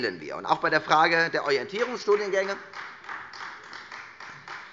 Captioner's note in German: Beifall Freie Demokraten